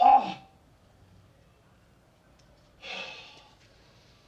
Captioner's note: groans; sighs